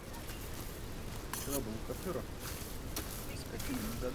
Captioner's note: none